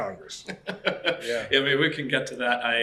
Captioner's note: laughs